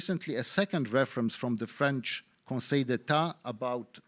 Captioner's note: speaking in foreign language